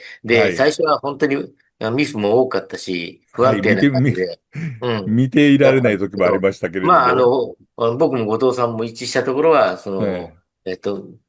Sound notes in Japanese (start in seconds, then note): 4.5 咳払い; 5.4 鼻息